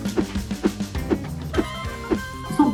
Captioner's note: air whooshes